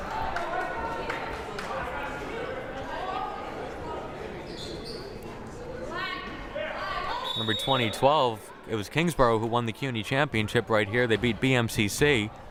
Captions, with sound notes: (crowd murmuring) (players shouting) Remember, 2012, it was Kingsborough who won the CUNY championship right here, they beat BMCC.